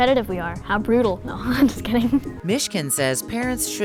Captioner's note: laughs